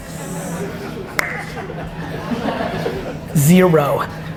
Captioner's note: low rumbling; clicks tongue